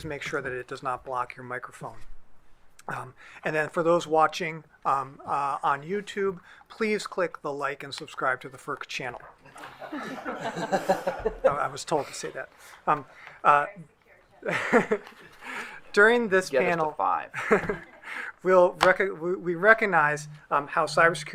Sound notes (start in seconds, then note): 9.4 group laughing; 14.7 laughing